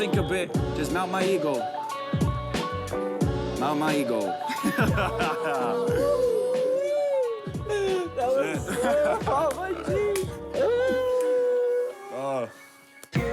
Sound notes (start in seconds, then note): 4.4 laughing; 6.4 cheering